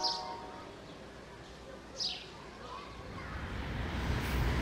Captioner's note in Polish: świergot ptaka